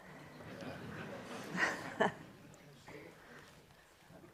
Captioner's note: audience chuckling